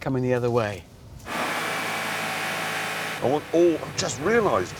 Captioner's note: engine revving